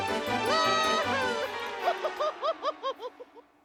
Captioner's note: laughing